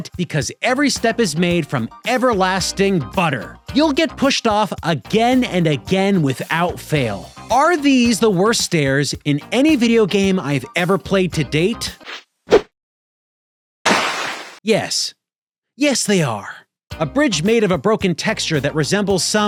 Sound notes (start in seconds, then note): 13.9 whips; 13.9 splashes